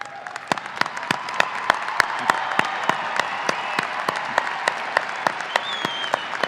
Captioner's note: audience applauding and cheering